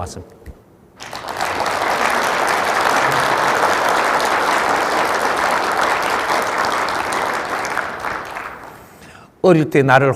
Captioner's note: audience applauds